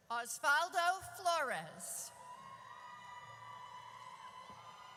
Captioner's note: audience cheers